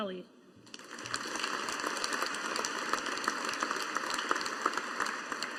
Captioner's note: audience applauding